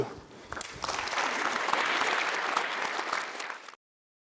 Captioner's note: crowd clapping